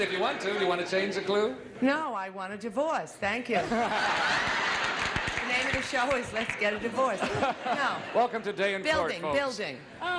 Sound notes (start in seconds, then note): 2.0 laughter and applause